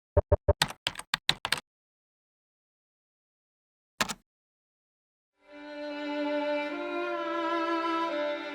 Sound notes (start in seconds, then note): 0.6 keyboard clicks; 5.4 somber music